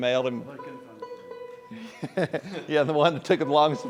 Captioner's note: laughter